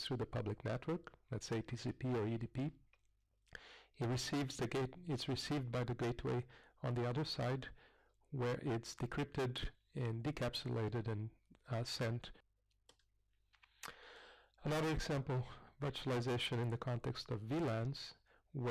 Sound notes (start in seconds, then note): 12.5 pause